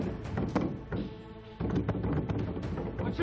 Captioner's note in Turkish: Kapı vurulması sesi